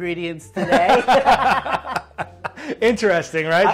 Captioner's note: both laughing